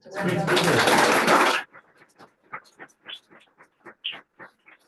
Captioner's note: audience applauding